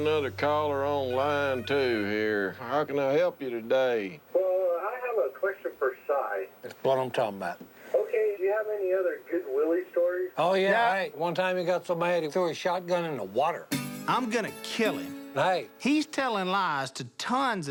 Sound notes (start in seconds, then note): 4.0 on phone; 7.5 on phone